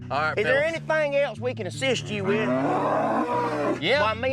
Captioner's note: loud mooing